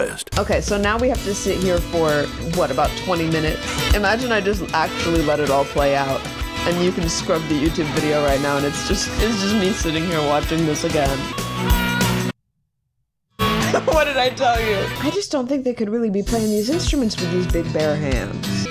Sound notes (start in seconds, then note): 12.4 silence; 13.5 laughs